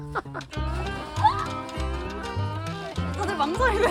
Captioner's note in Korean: 고라니 사운드